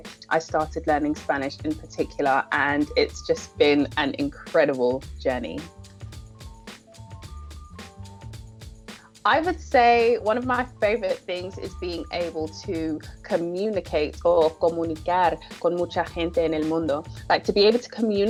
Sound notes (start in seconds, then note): 15.6 speaking spanish